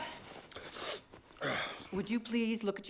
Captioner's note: groans